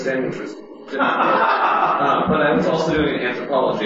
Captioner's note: laughter